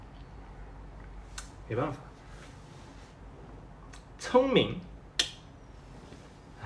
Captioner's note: tongue click